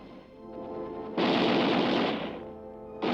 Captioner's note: gunfire